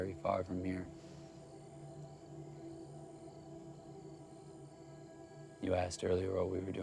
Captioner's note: crickets chirping; tense music